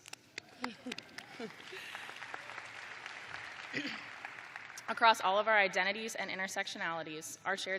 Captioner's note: applause